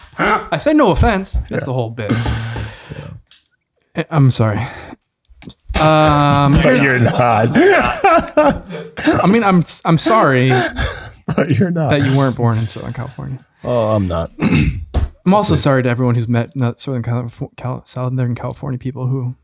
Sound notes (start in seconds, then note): 1.4 laughs; 7.8 laughs